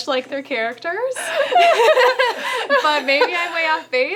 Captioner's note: laughter